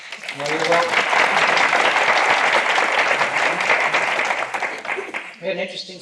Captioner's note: applause